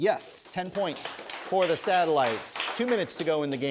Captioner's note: applause